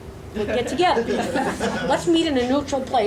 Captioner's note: audience laughs